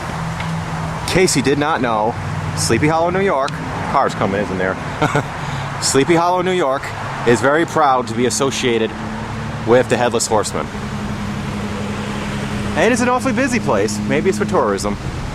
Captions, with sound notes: In case you did not know, Sleepy Hollow, New York... cars coming in from there. (Laughs) Sleepy Hollow, New York is very proud to be associated... with the Headless Horseman. And it is an awfully busy place, maybe it's for tourism.